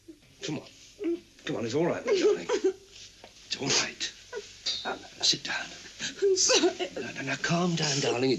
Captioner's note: laughter